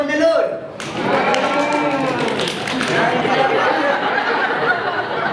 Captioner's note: animals cheer